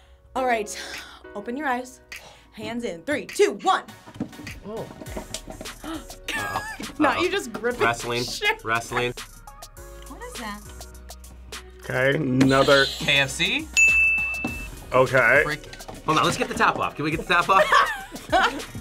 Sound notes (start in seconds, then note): 5.6 React gasps; 5.8 laughs; 12.5 buzzer rings; 13.7 bell rings; 17.3 React laughs